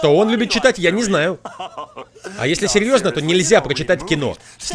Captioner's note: <i>chuckling</i>